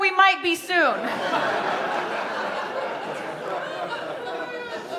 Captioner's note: audience laughing